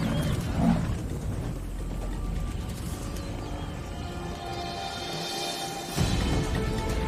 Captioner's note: dramatic music; buffaloes bellowing